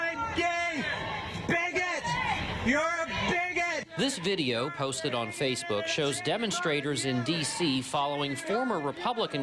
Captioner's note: chanting